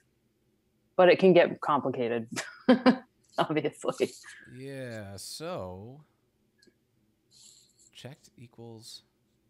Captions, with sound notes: but it can get complicated (laughs) obviously. - Yeah, so checked equals two.